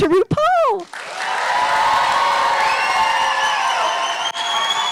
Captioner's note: audience applauding